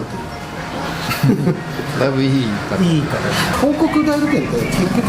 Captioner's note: laughs